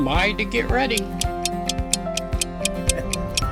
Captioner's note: clock Ticking